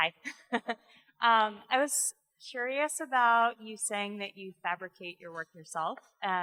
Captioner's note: laughs